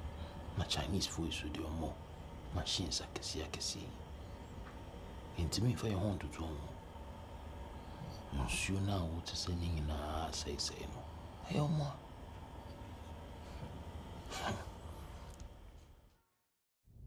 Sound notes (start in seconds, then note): 14.2 chuckles